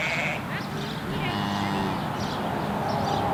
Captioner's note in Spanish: Sonido ambiente, la vaca muge